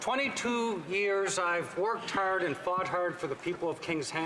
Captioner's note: laughter